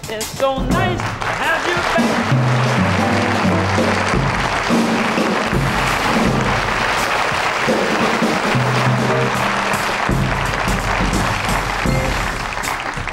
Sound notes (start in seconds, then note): 2.5 audience applauds; 2.5 drums thumping